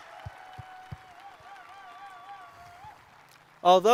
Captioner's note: cheers and applause